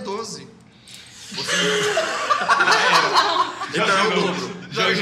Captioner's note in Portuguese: Risadas